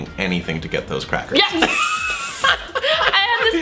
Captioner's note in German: lacht hysterisch